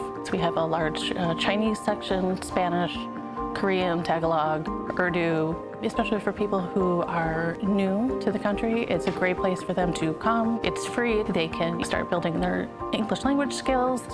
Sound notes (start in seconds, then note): none